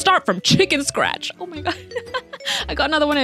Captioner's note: chuckles